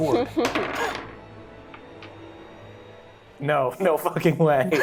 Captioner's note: suspenseful music; dice rattling